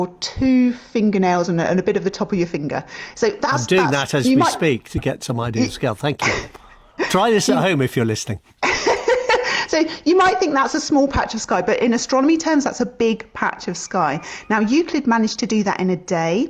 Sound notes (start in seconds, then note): 7.0 laughs; 9.1 laughs